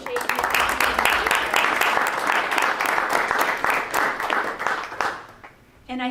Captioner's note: drowned out by applause